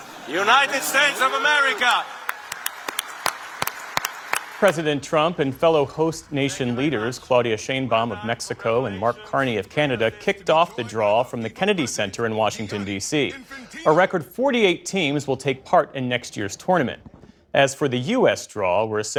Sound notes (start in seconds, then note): 4.6 applause